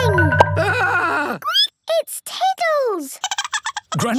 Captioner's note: squeaking; Tiddles giggling